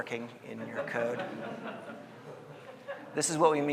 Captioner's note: audience laughing